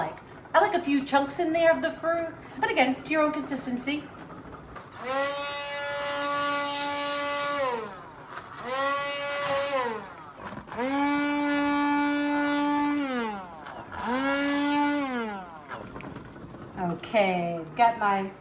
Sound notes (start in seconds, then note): 7.6 blender whirs